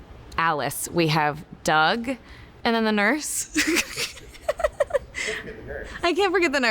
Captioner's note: chuckles